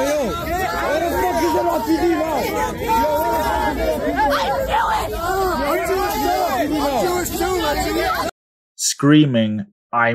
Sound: people talking in video clip

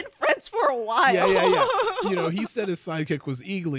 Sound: giggles

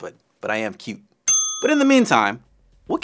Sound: bell ringing

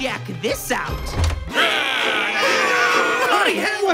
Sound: shouting; screaming

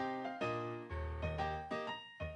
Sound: chime

